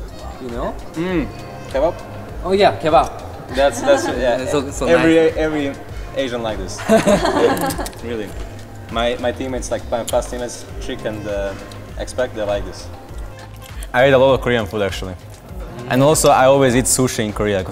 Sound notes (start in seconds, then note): 1.4 mouth full; 6.8 laughs